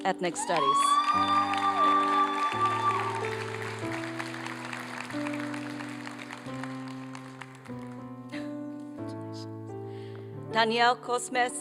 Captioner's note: applause and cheering